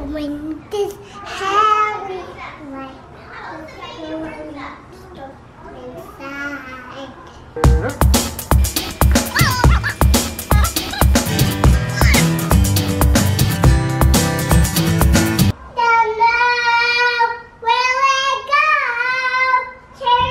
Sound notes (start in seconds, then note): 7.7 upbeat pop music; 10.3 children chattering in fast-forward mode